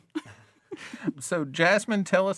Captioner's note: all chuckling